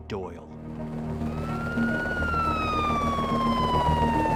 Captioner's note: sirens wailing